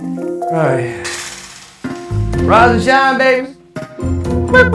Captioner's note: imitating rooster